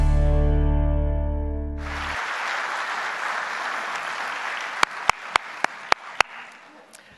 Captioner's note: applause